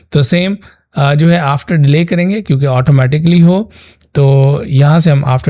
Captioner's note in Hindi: नाक से की जाने वाली आवाज़